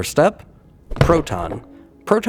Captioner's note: thunk!